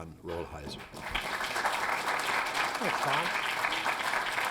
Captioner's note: applause